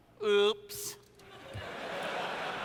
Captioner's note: laughter